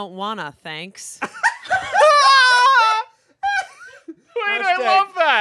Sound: everyone laughs

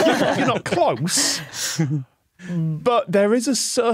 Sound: guests laughing

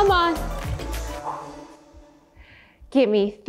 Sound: exhales

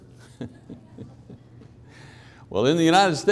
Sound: chuckling

